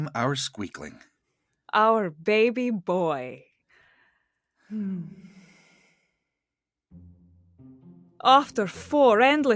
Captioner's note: sigh